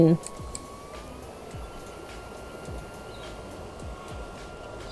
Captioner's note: fan whirring speeds up